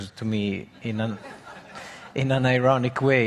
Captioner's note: audience laughing